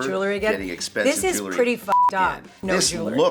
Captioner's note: beep